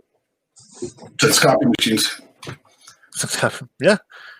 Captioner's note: laughs